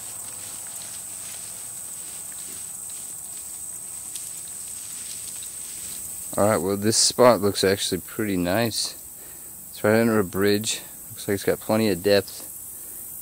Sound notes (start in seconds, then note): 0.0 footsteps; 1.0 insects buzzing